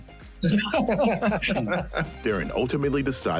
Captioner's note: laughing